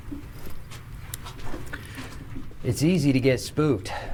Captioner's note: footsteps shuffling